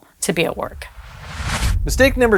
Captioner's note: whooshing sound